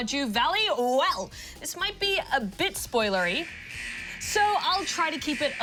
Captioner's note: alarm buzzes